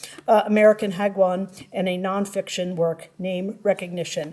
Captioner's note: none